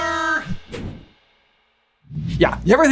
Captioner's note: transition whooshes